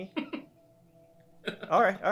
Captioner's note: laughing